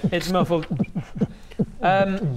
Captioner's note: beatboxing